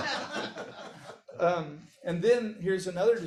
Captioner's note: audience laughs